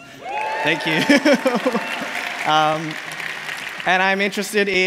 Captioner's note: applause